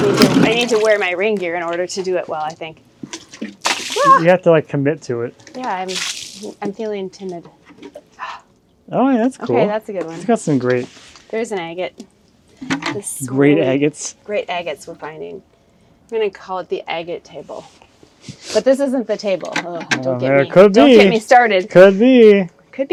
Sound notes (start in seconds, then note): 3.2 liquid splashing